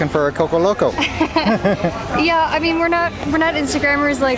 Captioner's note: laughs